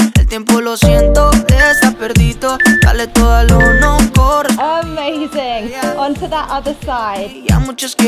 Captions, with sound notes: (timer beeping) Amazing. On to that other side.